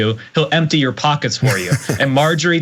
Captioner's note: laugh